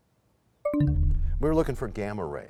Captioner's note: bell chimes, time expires